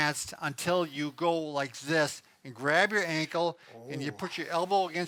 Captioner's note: groans